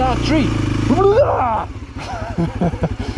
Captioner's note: screams